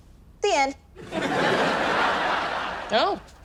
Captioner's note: audience laughs